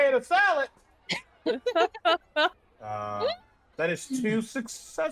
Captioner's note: laughter